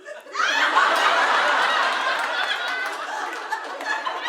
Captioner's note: audience laughing